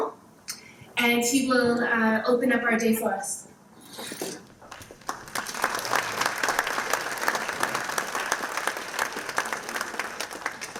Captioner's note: applause